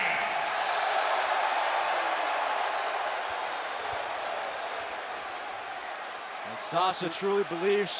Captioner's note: crowd cheering